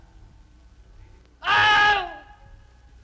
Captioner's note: man screams again